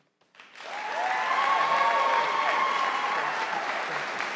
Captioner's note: audience applauding